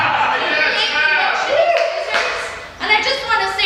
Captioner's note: cheers; shouting